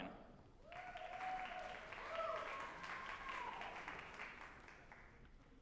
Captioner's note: group applauding and cheering